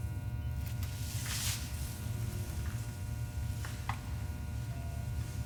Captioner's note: electricity buzzing